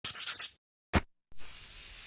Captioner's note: marker squeaking; air hissing